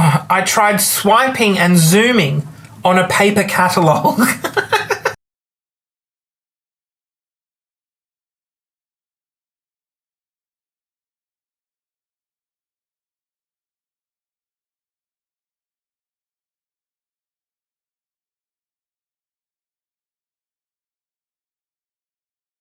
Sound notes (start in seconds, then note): 4.1 laughs; 5.9 silence